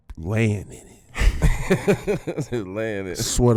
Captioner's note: laughing